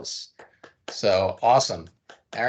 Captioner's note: clapping